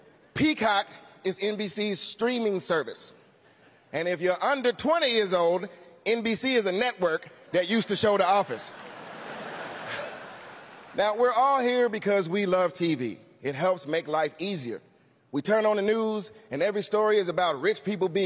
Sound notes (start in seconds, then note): 8.5 laughter